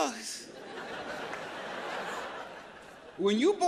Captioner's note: audience laughs